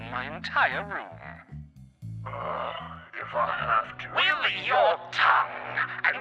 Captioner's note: demonic voice